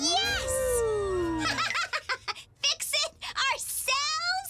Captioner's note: laughs